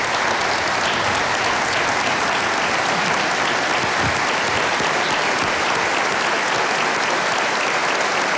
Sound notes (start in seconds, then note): 0.0 audience applauding